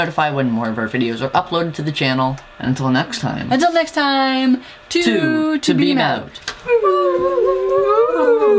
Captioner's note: whooo